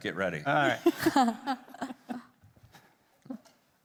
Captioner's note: group laughing